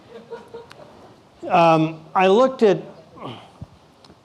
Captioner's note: laughing